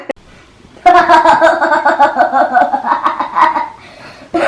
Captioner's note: laughs